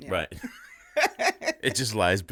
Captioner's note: laughing